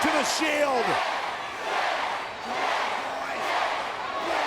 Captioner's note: audience chanting